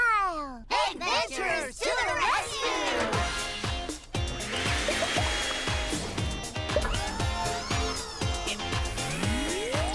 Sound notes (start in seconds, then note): 2.9 upbeat music; 6.7 whirring